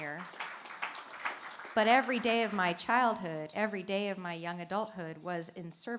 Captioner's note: applause